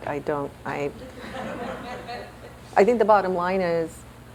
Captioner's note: laughter